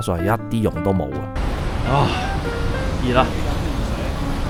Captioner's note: moans